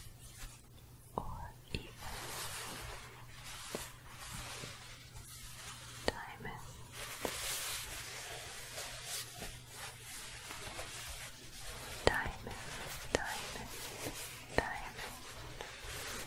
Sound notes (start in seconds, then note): 3.2 shuffling; 7.4 shuffling; 16.0 shuffling